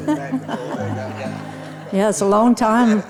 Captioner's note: audience laughs